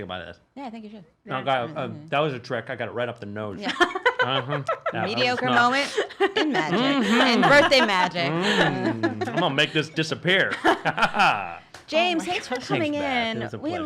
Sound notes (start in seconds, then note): 4.2 laughs